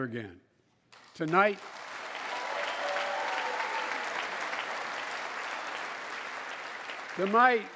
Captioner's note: applause